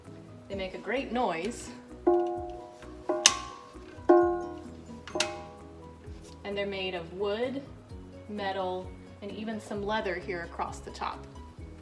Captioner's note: bell ringing